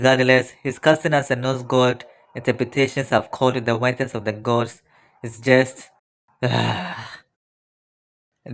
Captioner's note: sigh